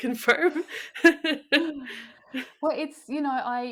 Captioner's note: laughs